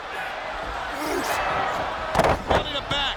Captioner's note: wrestlers thudding